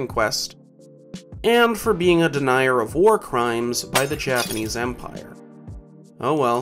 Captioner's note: glass Breaking Noise